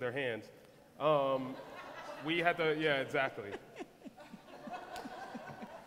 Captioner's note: laughter